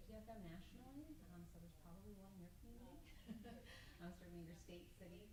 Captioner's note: group laughs